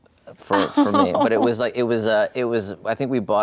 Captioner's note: laughs